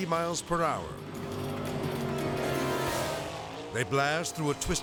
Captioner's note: suspenseful music; boat buzzing